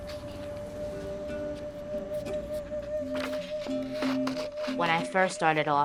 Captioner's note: paper rustling